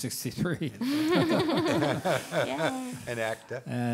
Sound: all laughing

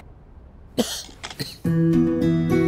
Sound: coughs

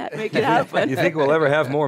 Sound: laughs

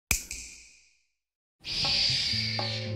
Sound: snap; whispering

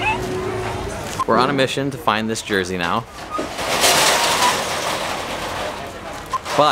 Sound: stall door closes loudly

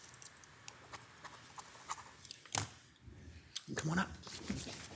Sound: pen scribbling

